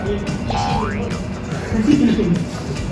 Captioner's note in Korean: 웃음